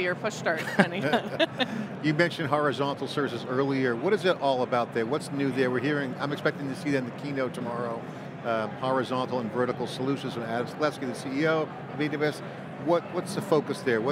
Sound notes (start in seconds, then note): 0.6 laughing